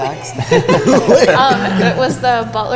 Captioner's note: laughter